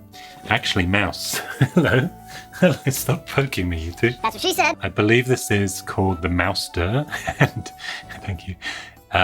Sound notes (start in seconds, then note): 1.1 laughs; 7.1 laughs